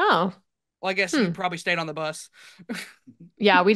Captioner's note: chuckles